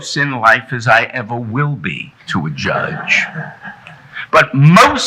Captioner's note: audience chuckling